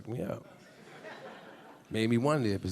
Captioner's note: a few audience members laughing